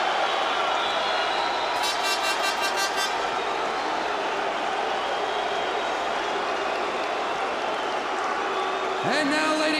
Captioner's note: crowd cheering